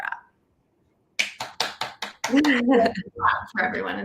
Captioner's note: clapping